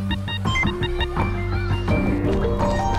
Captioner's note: wind whistling